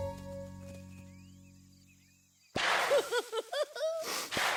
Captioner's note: blowing and laughing